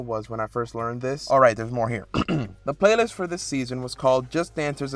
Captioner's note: clears throat